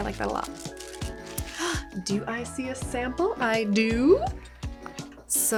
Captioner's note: gasps